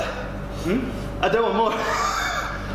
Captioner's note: laughing